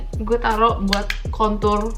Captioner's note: intense tapping